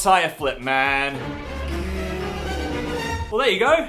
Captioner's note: suspenseful sound effect